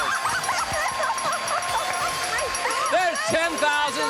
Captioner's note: dinging; laughs